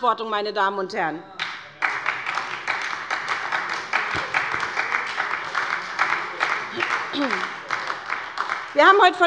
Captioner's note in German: Beifall bei der SPD